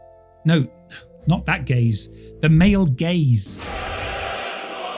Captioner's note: laughs